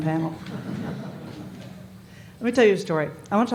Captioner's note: laughter